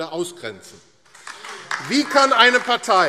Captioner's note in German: Beifall AfD - Zurufe CDU